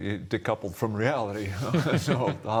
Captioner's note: laughter